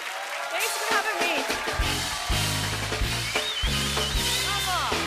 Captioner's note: cheers and applause